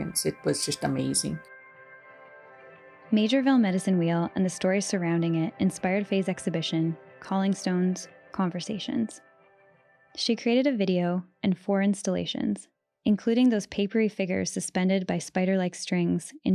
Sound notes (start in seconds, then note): 10.2 conversations